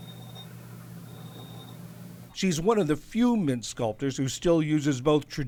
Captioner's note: voice-over